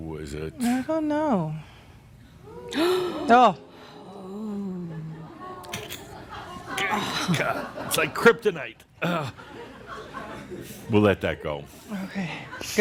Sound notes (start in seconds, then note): 2.3 and audience gasp